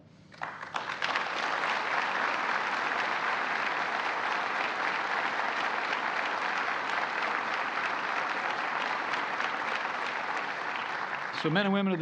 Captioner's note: applause